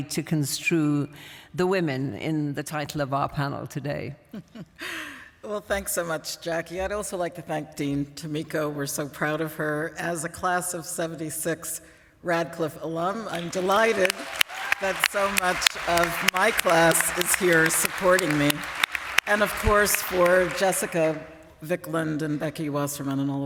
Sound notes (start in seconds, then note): 4.2 laughs; 14.0 applause